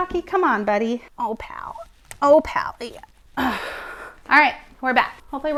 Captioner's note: sighs deeply